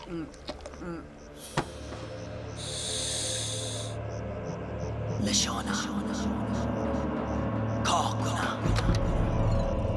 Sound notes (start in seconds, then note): 5.1 whispering